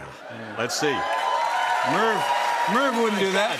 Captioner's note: cheers and applause